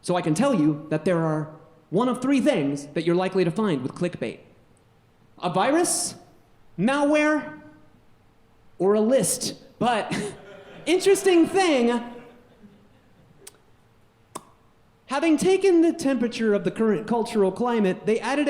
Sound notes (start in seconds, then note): 10.1 audience laughing; 14.2 pop